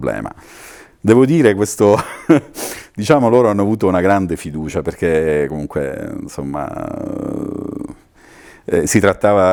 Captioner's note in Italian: risate